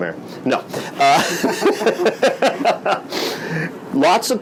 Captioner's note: laughs